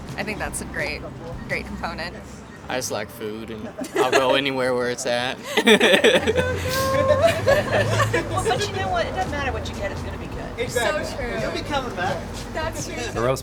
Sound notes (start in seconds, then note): 5.3 customers laughing